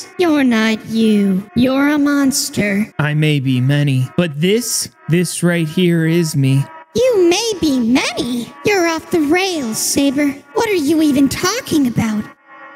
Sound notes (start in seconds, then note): none